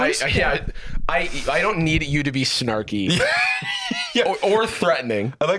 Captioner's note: laughs